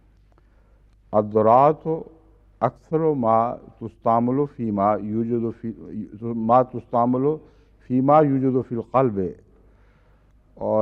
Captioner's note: Arabic